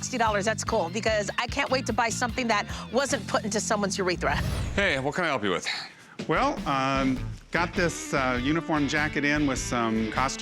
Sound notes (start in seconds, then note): none